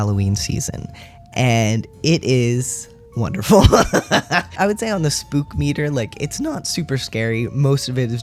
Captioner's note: laugh